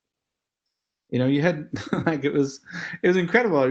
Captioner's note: laugh